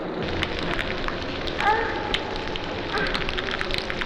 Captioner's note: fire crackling